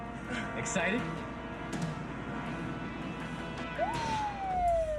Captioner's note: police siren wails